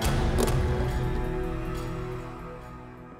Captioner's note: gun clatters